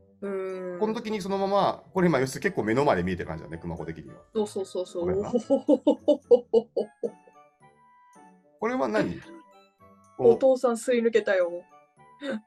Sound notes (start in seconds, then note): 6.2 nervous laughter